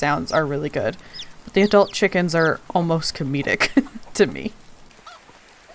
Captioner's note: laughing